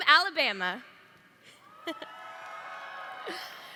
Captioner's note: cheering